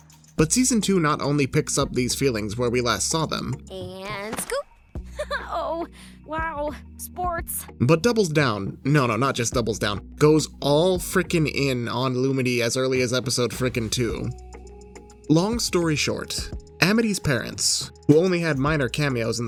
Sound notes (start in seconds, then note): 5.1 giggles